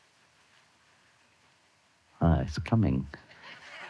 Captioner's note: rain started